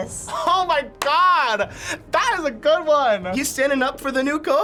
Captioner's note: claps